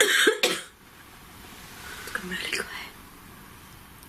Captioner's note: coughs